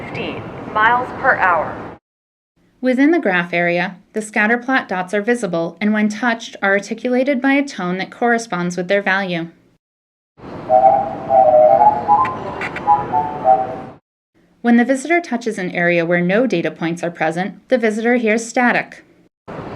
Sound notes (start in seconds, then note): 10.5 high pitched tones